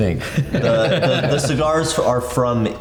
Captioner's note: all laughing